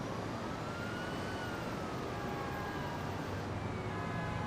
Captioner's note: distant sirens